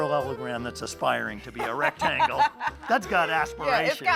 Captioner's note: laughs